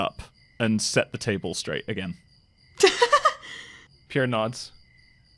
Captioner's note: laughs